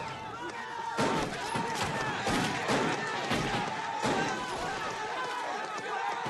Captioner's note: encouraging shouts